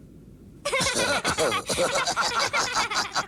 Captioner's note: laugh